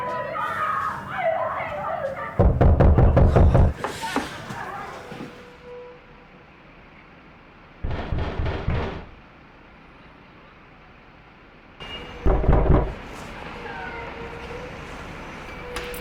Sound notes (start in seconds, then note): 0.0 people laughing; 0.0 people chattering; 8.8 deliveryman knocks on door